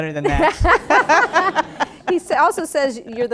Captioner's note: laughter